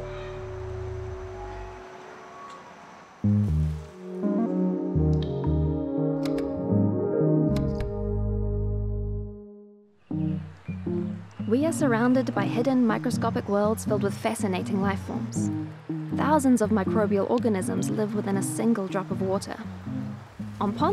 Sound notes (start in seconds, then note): 4.1 sound of water droplet; 6.2 microscope slide clicks into place